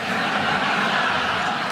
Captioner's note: audience laughing